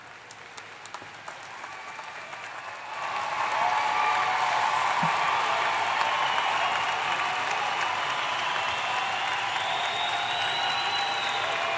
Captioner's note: applause